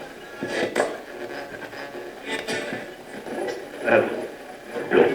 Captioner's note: radio channel changing